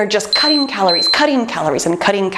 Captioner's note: timer beeping